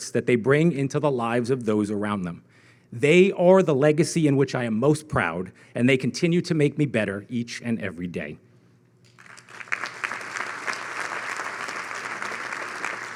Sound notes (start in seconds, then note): 9.1 audience clapping